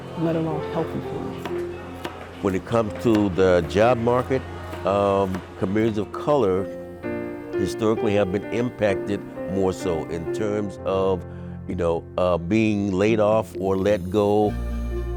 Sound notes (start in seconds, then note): 1.4 knife thudding